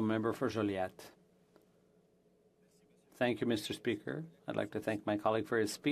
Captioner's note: speaking French